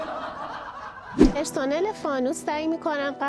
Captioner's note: laughter